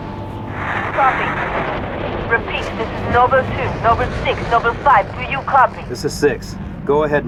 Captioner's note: static; radio